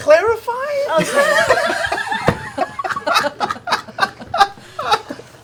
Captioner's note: laughter